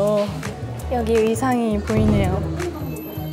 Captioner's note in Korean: 두둥